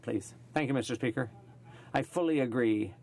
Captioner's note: speaking in French